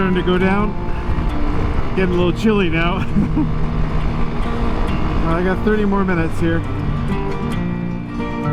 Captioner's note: laughs